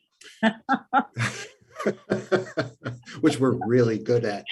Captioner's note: laughing